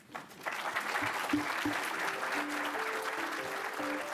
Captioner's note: audience applause; upbeat music